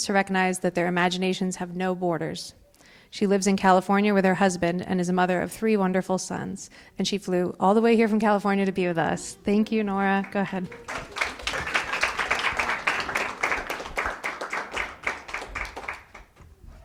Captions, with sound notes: to recognize that their imaginations have no borders. She lives in California with her husband and is a mother of three wonderful sons and she flew all the way here from California to be with us. Thank you Nora, go ahead. (audience applause)